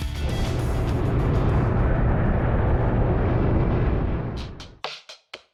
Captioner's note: plane roaring